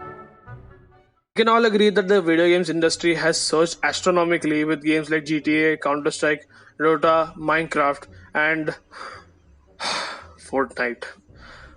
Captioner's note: sigh